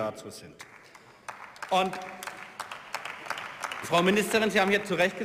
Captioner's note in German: Beifall